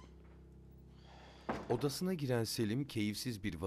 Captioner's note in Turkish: Kapı kapanma sesi